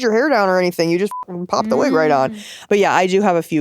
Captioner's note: beep